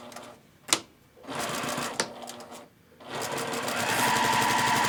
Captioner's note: sewing machine roars